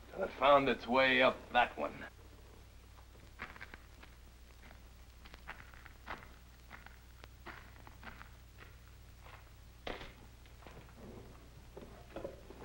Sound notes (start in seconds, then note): 5.9 foot Steps; 9.6 thud; 9.7 foot Steps